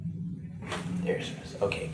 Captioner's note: back cracks